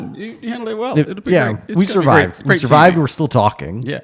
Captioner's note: voice muffled